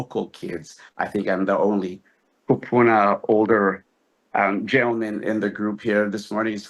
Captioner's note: speaks Hawaiian